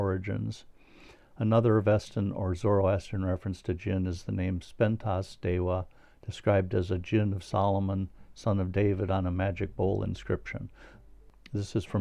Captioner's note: in Persian